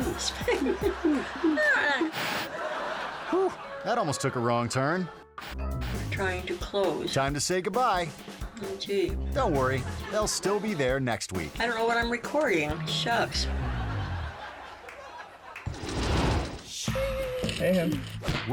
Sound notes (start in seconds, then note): 0.0 grandma laughing; 0.0 audience laughing; 1.9 TV static; 9.5 audience laughing; 12.7 audience laughing; 15.9 logo swooshing